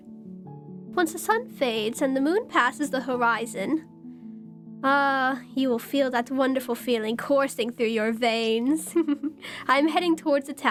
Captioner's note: giggles